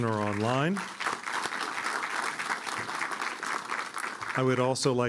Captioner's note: applause